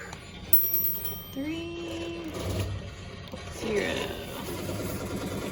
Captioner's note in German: am Wählscheibentelefon